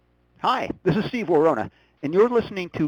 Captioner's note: voiceover